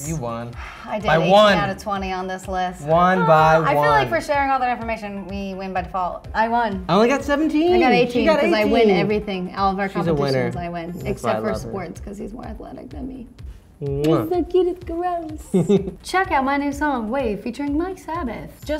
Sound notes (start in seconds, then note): 15.5 laughs